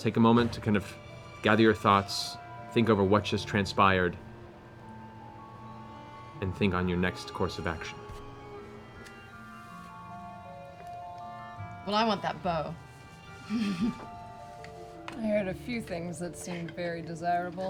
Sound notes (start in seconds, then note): 13.4 laughs